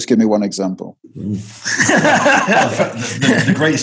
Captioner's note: laughter